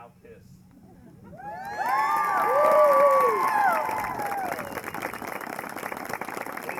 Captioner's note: applause